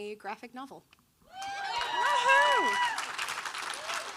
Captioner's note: audience cheering; audience applauding